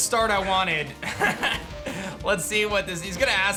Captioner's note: laughs